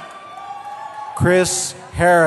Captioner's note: cheering